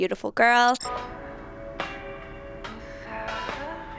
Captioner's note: transition squeaks; uplifting instrumental music